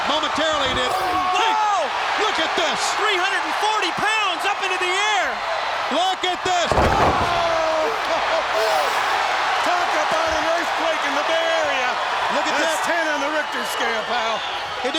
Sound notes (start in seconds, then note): 7.7 crowd cheers